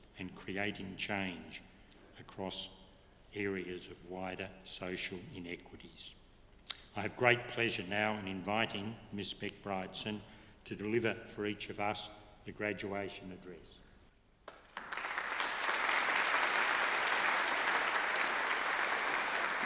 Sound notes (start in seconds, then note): 14.4 audience clapping